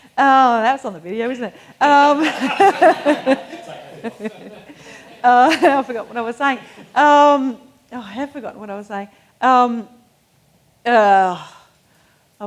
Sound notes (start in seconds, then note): 1.2 laughs; 2.0 audience laughing